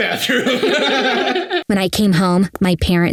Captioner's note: both laughing